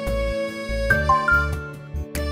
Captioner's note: phone beeps